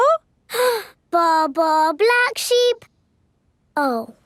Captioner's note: inhales